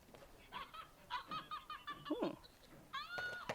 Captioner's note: Elmo laughing